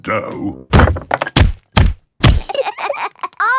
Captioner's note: banging